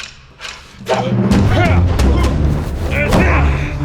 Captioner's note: both grunt